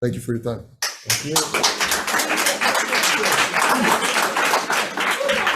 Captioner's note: audience applauds